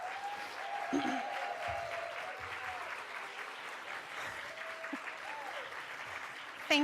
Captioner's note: applause